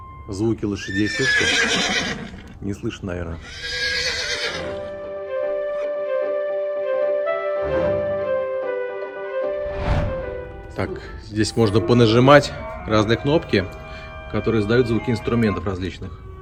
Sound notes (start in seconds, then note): 0.8 horses whinnying; 3.3 horses neighing